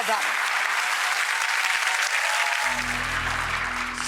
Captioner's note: audience applauding